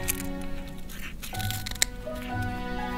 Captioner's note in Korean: 바스러지는 소리